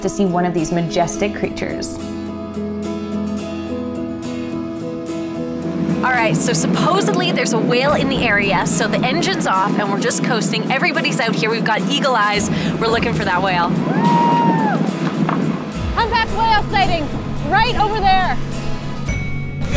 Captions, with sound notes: to see one of these majestic creatures. (gentle music) All right, so supposedly there's a whale in the area so the engine's off and we're just coasting. Everybody's out here, we've got eagle eyes. We're looking for that whale. (people yelling) Humpback whale sighting! Right over there!